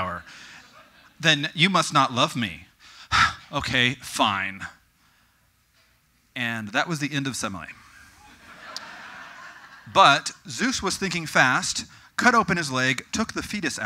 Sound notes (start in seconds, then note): 8.2 audience: Cackling